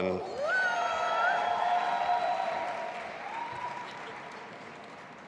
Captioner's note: audience applauding